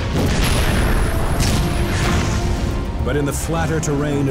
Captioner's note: explosions booming